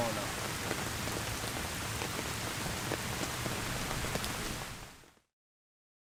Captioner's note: sounds of heavy rain